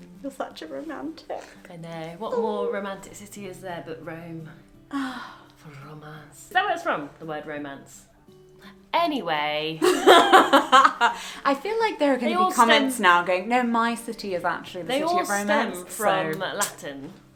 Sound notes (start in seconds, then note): 9.8 laughs